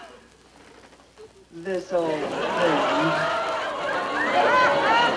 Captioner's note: audience laughs